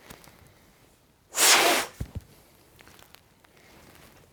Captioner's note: blows out